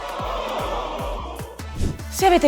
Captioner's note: crowd: No